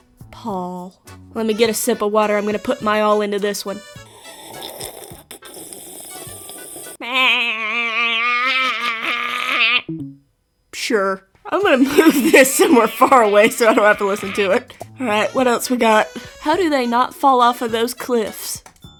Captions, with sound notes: Paul... Let me get a sip of water I'm gonna put my all into this one *Sounds of intense sipping* *Makes horrific sheep sound* Sure. I'm gonna move this somewhere far away so I don't have to listen to it What else we got? "How do they not fall off those cliffs?"